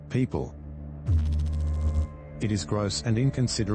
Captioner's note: electrical noise